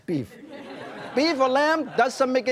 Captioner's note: audience laughing